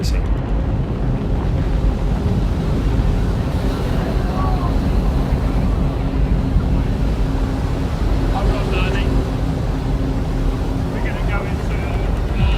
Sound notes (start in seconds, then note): 0.2 loud rumbling; 8.1 intense droning sound